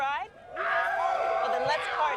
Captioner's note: fans shout